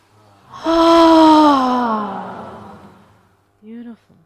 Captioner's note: all sigh loudly